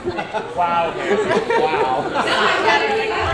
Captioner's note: indistinct chatter